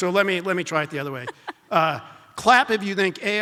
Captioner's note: laughs